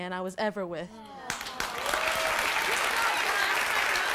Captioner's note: applause